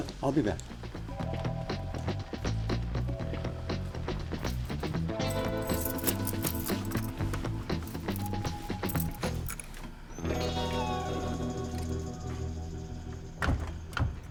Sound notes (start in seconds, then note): 1.1 gentle thrilling music; 4.3 keys jingling; 5.6 gentle thrilling music